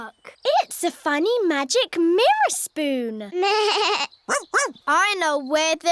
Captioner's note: bleats